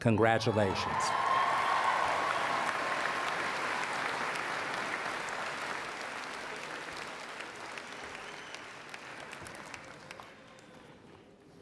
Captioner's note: applause